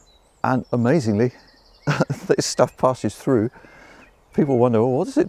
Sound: chuckling

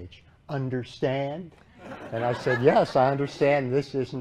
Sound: laughter

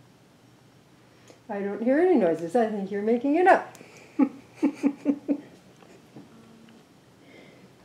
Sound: laughs

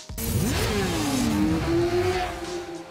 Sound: motor bike engine revving; soft music

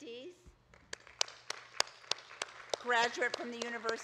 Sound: audience claps

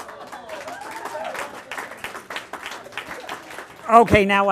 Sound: applause

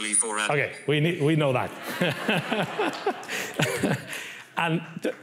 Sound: laughs

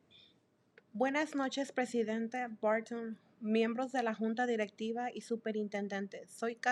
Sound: speaking Spanish

